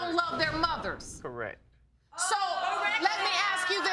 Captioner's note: audience exclaims